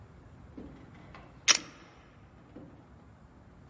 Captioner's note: gun clicks